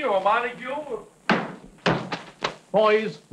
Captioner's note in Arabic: يُغلق الباب بقوة